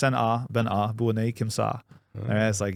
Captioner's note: speaking in foreign language